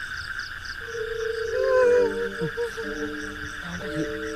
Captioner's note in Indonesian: suara menangis